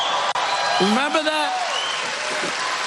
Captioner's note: applause